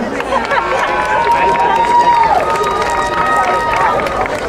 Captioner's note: crowd cheering